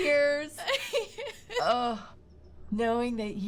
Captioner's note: Joan cries